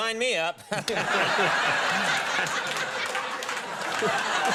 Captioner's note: audience laughter